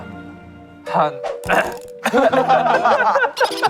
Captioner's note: ahem